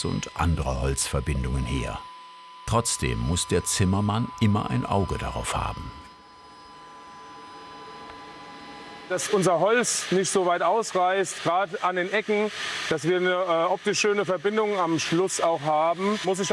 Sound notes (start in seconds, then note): 6.4 continuous high-pitched whirring